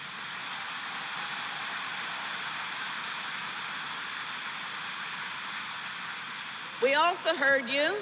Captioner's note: applause